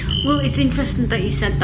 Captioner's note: metre beeping